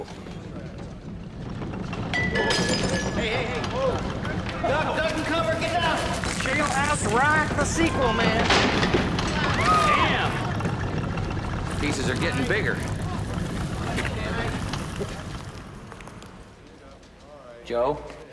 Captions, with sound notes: Whoa. (rumbling, glass breaking) Hey, hey, hey. Whoa! Duck, duck and cover! Get down! Jailhouse Rockthe sequel, man. (screaming) Man! The pieces are getting bigger. (rumbling stops) Joe?